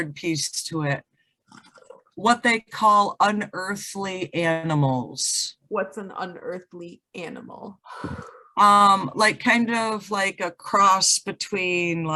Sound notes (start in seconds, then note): 1.6 bong water bubble noises; 7.9 exhales